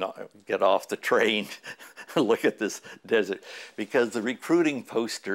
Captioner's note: chuckle